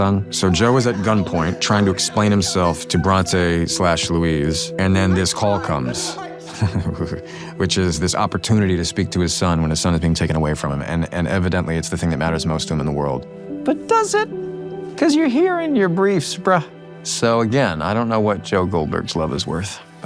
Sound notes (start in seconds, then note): 4.8 chuckles